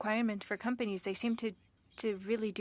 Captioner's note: speaking French